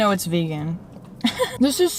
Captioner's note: laughs